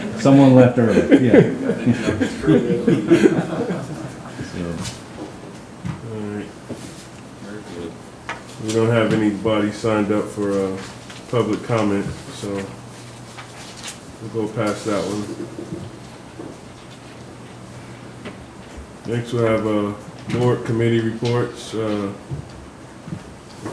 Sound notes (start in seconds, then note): 0.0 members laughs; 0.0 members chuckles